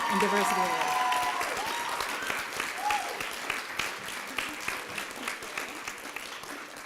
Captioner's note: applause and cheering